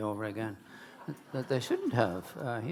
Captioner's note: audience laughing